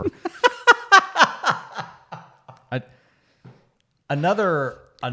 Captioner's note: laughing